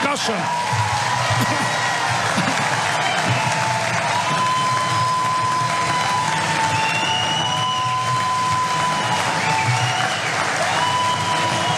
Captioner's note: applause